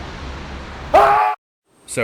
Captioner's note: Bigg T SCREAMS